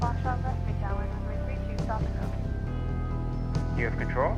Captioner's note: controller talks over radio in background